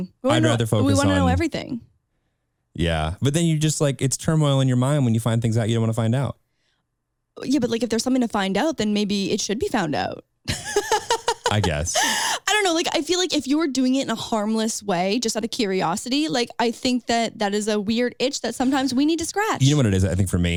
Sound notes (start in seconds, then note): 10.5 laughs